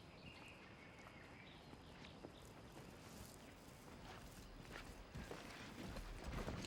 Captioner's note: bird chirp; footstep